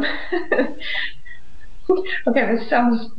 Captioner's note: laughs